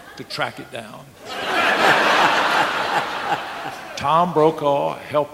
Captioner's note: audience laughing